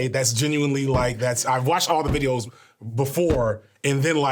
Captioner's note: none